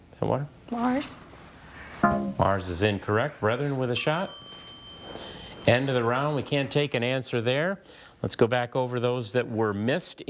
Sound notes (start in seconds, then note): 1.9 text buzzing; 3.9 bell dinging